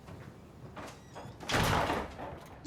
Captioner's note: door closing